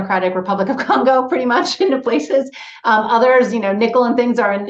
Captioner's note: laughs